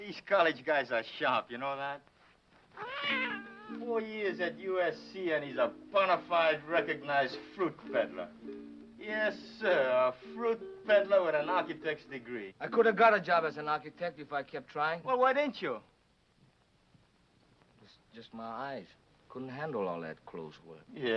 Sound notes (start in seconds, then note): 2.7 cat meowing